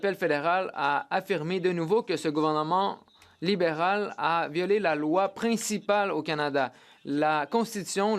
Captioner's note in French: voix de l'interprète